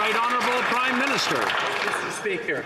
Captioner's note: some Applause